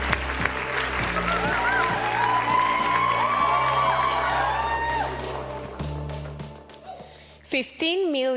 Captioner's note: cheering; applause